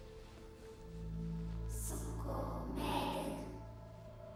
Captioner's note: ghostly Voice